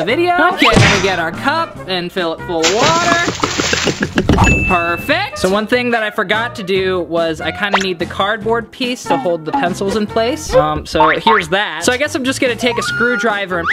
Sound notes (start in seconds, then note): 2.5 splashing